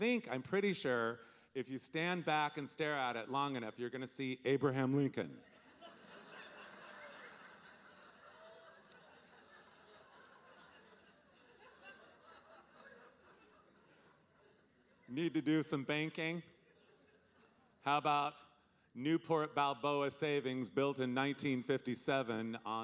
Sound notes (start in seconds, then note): 6.3 audience laughing